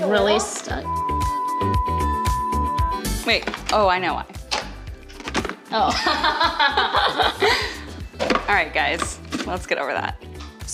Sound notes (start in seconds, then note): 0.8 beeping; 6.0 laughing